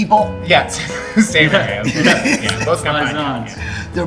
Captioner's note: all laughing